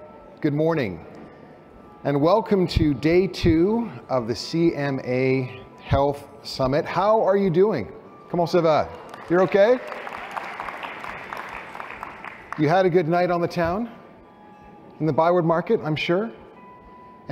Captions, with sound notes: Good morning and welcome to day two of the CMA Health Summit. How are you doing? [SPEAKING FRENCH] You're OK? [APPLAUSE] You had a good night on the town? In the ByWard, Market, I'm sure.